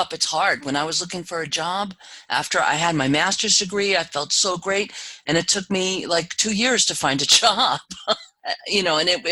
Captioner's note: laugh